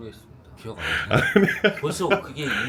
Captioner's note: laughs